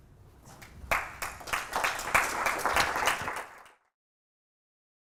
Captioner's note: applause